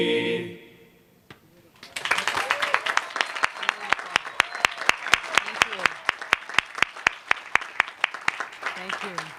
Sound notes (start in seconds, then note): 1.8 applause